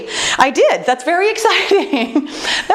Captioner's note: laughs